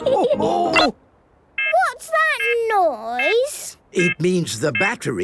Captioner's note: laughter; quacking; beeping